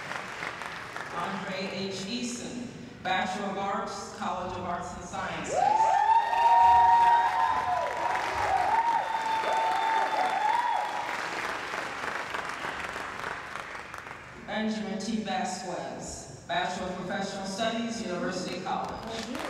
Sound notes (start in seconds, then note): 6.0 applause